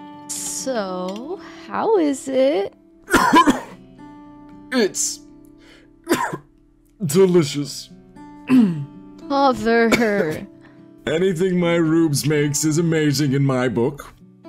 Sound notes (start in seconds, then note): 3.0 coughs; 6.0 cough; 8.4 clears throat